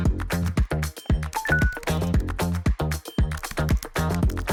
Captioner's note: notification ping; keyboard clacking